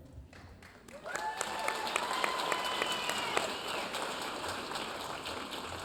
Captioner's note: audience cheering and applauding